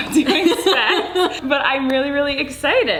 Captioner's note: laughing